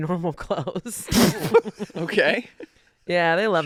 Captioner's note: snorting